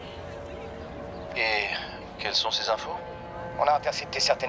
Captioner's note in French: sur haut-parleur